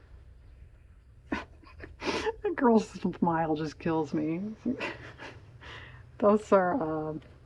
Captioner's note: laughs